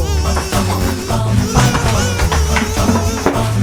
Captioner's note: dramatic music; farting sound